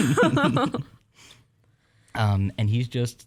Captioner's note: chuckling